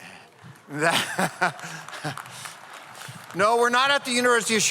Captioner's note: audience applauds